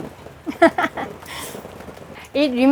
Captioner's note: laughs